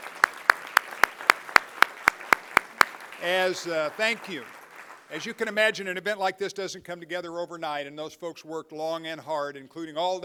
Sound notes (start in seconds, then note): 2.8 applause